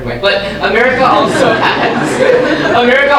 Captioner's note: audience laughing